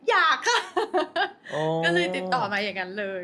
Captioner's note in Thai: เสียงหัวเราะ